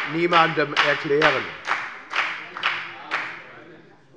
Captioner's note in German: Beifall bei der FDP